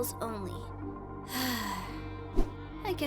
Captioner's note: sigh